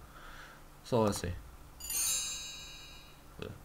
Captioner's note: magical whoosh